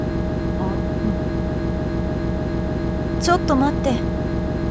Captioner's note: chomp